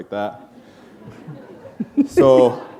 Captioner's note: laughter